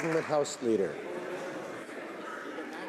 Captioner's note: some Applause